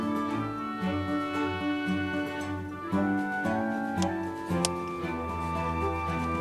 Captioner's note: laughs